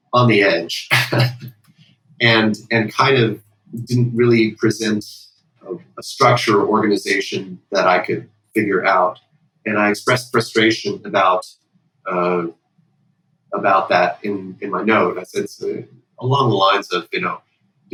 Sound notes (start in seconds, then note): 1.0 laughter